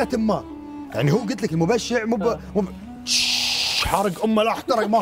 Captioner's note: sputtering 🔥